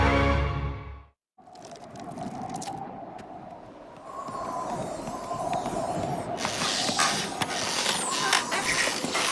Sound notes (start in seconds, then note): 1.4 wind whistling; 6.4 creaking